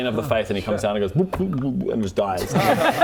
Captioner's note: blub blub